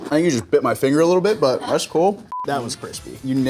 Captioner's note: staff laughs